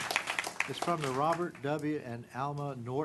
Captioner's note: clapping